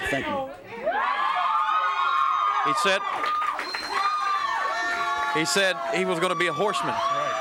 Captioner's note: crowd cheering